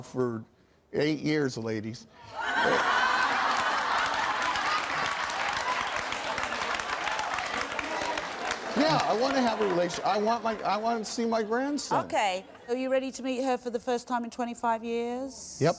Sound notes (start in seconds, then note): 2.3 laughter